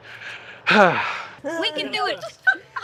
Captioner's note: sighs